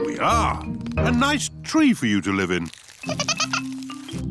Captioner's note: giggling